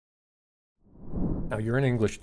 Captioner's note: graphic whooshing